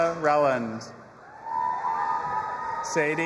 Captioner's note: audience applauding and cheering